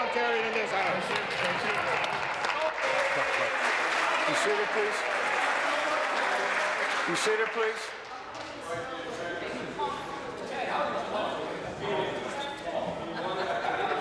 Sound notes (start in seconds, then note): 6.0 applause